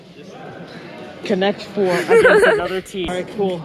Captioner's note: laughter